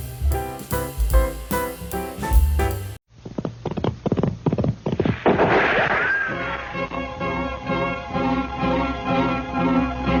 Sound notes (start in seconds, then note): 3.3 tapping; 5.0 gunshot